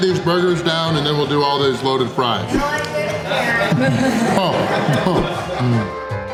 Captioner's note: laughter